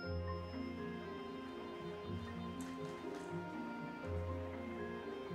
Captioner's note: city sounds